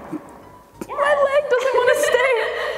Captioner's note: laughing; all laughing